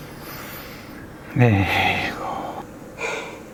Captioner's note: sigh